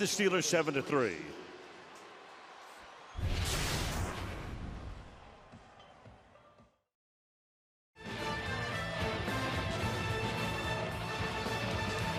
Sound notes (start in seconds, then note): 3.2 swoosh